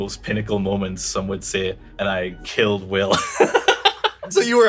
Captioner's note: laughs